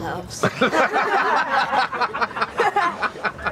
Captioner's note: laughing